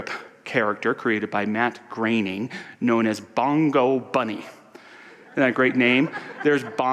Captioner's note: audience laughter